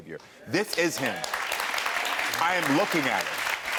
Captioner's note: audience applauds